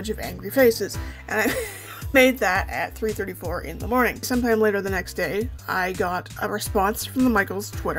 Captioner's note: laughing